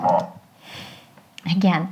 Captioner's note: space bar clicks